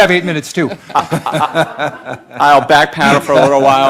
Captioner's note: laughing